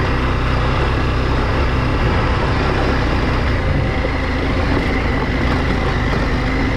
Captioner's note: engine roaring